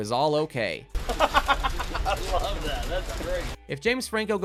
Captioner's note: laughs